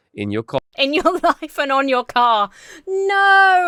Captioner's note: laughs